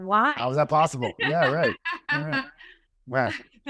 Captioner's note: laughter